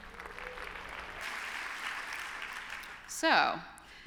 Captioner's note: applause